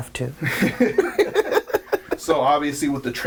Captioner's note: laughing